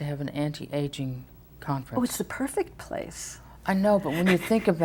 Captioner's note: laughs